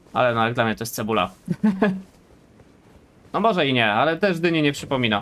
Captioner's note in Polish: śmiech